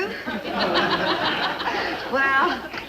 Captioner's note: audience laugh